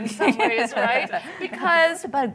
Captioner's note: laughter